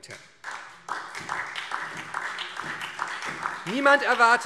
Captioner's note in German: Beifall SPD